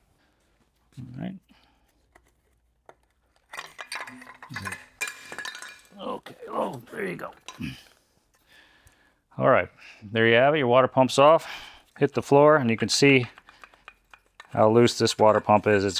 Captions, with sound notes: (metal clanking) Okay, oh, there you go. All right, there you have it. Your water pump's off. Hit the floor and you can see how loose this water pump is.